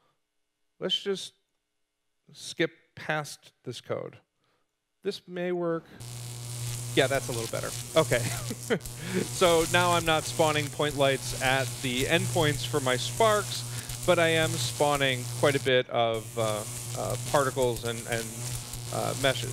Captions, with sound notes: let's just skip past this code. This may work. [Electricity buzzing] That is a little better. Okay. Now I am not spawning Point Lights at the endpoints for my sparks, but I am spawning quite a bit of particles and meshes.